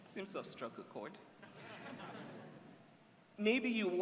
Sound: laughter

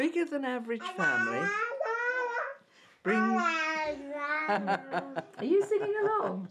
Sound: laughter

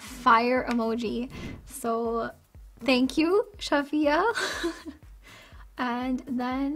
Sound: giggles

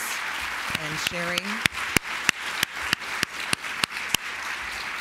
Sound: applause

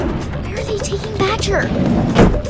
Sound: door slams; engine starts, revving

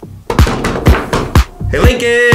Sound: drums on table

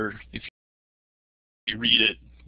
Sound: break in audio

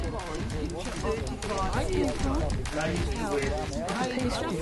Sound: people chatting

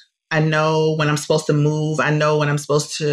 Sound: none

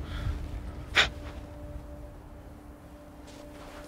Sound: Rahel puffs

